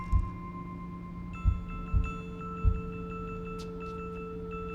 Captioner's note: thumping